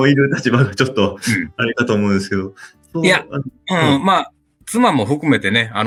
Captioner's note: laughs